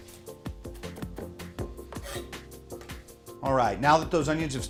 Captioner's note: knife thumping